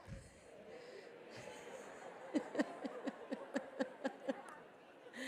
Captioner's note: audience laughing